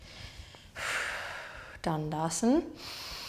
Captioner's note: exhaling